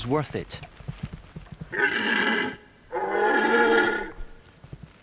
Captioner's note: red deer calls